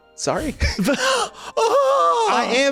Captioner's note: gasps